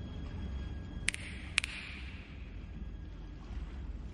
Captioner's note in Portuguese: estalos de dedos